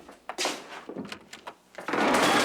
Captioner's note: chair slams